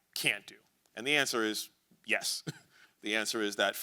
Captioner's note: chuckles